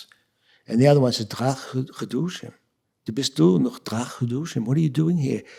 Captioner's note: speaking yiddish; speaking yiddish